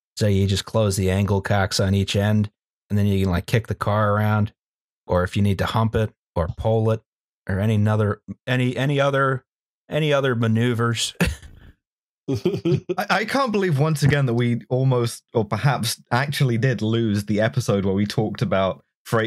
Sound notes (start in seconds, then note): 12.3 chuckles